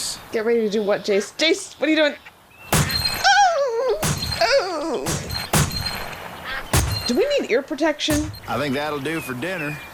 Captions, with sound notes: - Get ready to do what, Jase? Jase, what are you doing? [shot then whimper] x1 [shot then whimper] x2 [gun shots] Do we need ear protection? - I think that'll do for dinner.